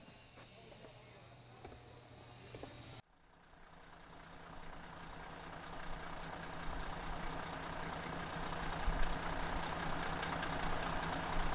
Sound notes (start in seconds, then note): 0.0 tools buzzing; 3.8 engine rumbling